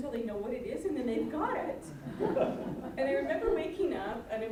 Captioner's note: all chuckling